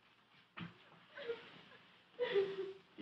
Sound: students crying

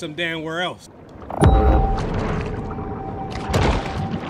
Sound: water splashing

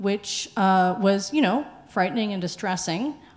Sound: none

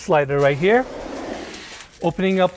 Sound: door sliding gently

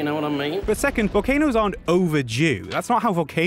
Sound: explosion

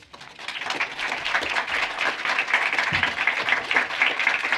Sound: applause

